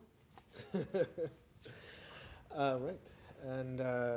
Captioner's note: laughing